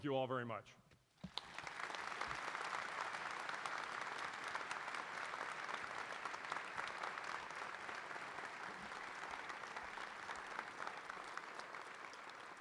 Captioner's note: applause